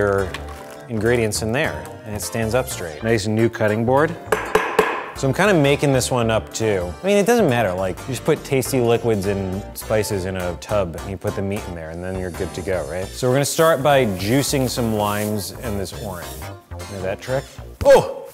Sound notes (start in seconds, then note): 4.2 tapping